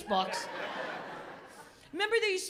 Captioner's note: laughter